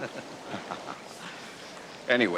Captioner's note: chuckles